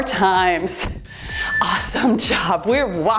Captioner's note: timer beeps